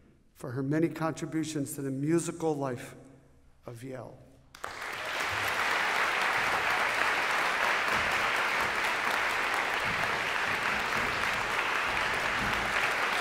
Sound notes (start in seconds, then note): 4.4 applause